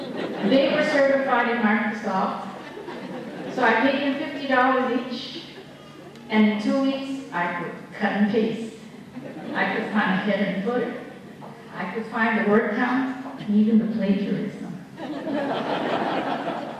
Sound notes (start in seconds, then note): 0.0 laughter; 9.1 laughter